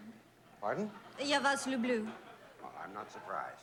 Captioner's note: speaking russian